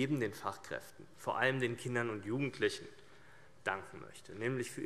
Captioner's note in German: none